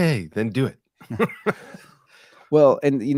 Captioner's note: laughing